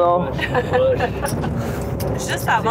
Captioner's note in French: rires